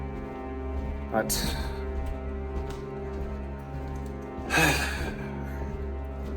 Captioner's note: sighs